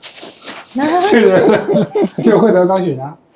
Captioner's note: laughter